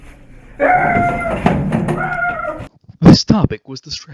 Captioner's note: Gustav screams